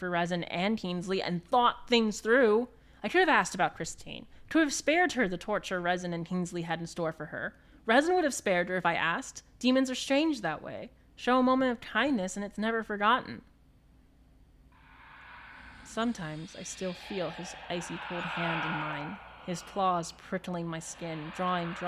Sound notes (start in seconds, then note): 14.7 ghostly sounds